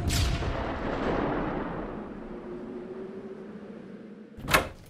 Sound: microwave explodes

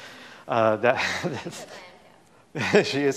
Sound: laughs

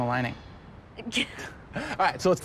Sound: laughing

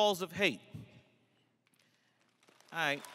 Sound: crowd applauses

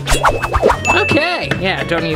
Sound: fast whipping; bell rings

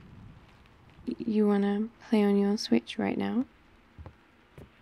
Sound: footsteps

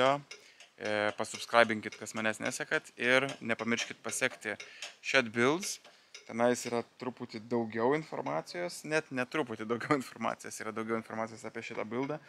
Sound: in lithuanian

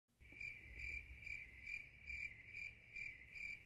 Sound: crickets chirping

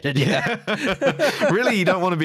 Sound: laughter

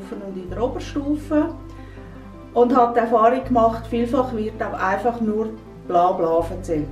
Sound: woman speak Swiss German

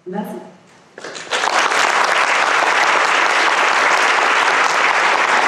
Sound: applause

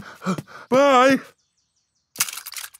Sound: panting

